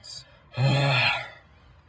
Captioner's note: Alex sighs